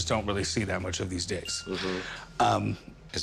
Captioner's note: bell tings